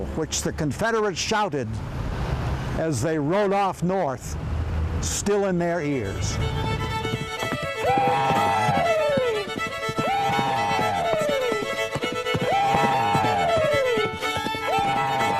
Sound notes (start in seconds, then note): 6.4 lively fiddle music; 8.2 man shouting enthusiastically